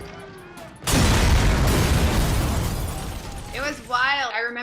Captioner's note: explosion